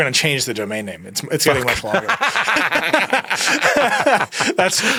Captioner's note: both laugh